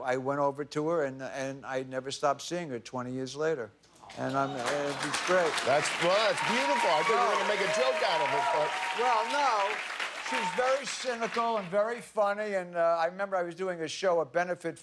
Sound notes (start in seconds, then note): 8.1 applause